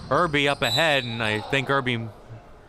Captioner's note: whistle chirping